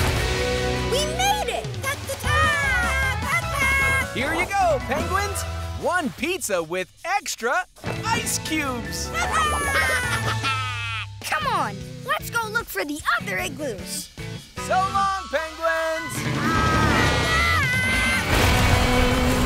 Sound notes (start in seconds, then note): 1.8 penguins cheer; 9.1 penguins cheer; 16.5 penguins squawking